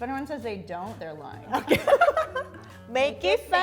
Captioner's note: laughs